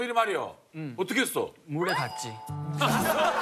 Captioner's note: haha